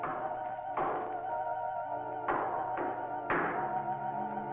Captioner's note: phantom knocking